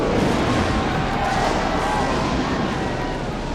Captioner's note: crowd jeering